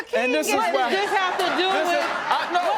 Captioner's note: audience laughing